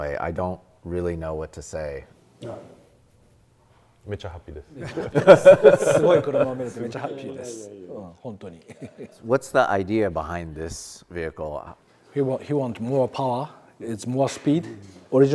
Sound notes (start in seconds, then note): 3.5 speaks Japanese; 4.8 everyone laughs; 6.5 speaks Japanese